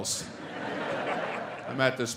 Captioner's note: audience laughing